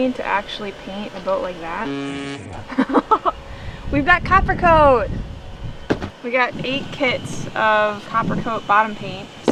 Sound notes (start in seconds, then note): 1.8 buzzer buzzing; 2.6 laughing